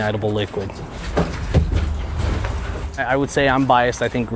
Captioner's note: footsteps thumping